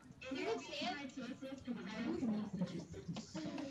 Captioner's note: chattering